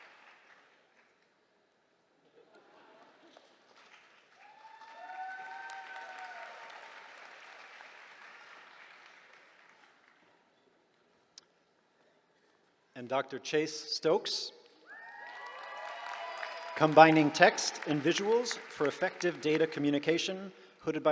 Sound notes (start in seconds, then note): 2.3 laughter; 4.3 cheering; 14.8 cheering